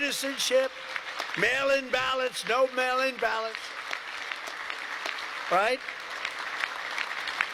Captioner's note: applause